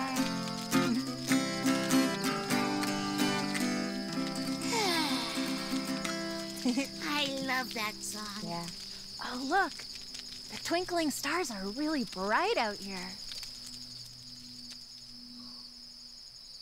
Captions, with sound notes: (Tobee sighing) - I love that song. - Yeah, oh look, the twinkling stars are really bright out here.